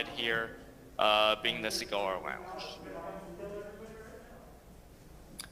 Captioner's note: ~audio distortion~